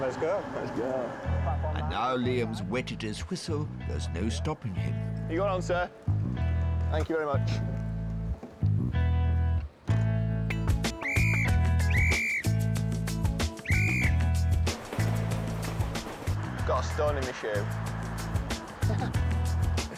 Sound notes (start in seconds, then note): 10.5 whistle tweeting; 14.7 train rumbling; 18.8 laughing